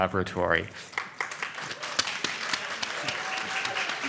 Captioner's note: audience claps